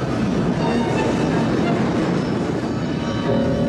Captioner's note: wind gusting